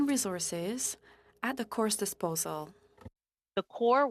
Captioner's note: speaking French